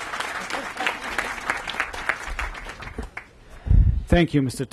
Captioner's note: applause